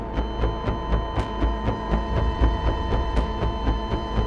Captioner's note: heart monitor flatlining